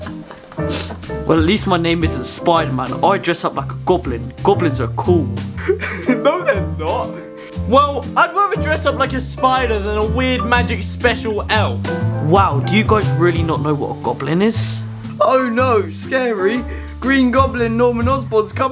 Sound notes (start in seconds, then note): 5.5 laughs